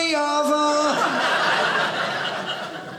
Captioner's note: audience laughing